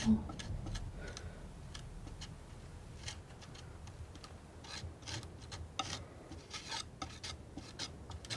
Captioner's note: sculpture sounds